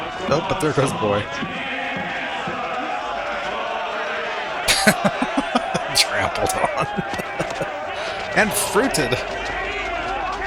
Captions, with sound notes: Oh, but there goes Boy. [Laughing] Trampled on. And fruited.